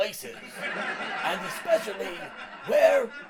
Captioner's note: laugh track continues throughout